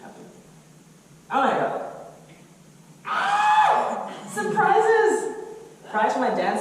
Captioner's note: yells